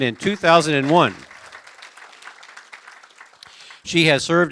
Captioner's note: applause